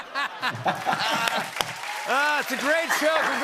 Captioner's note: laughter; cheers and applause